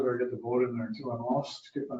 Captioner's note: speaking off mic